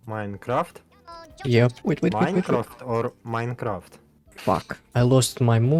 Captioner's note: different accents